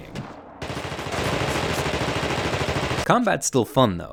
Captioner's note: guns shooting